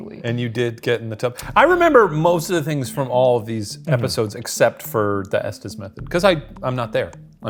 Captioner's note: none